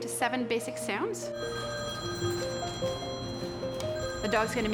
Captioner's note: cellphone ringing